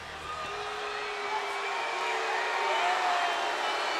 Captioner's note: crowd booing